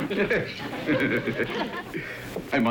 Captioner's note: chuckling